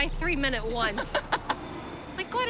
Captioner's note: laughs